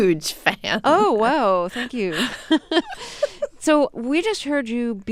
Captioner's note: soundbite of laughter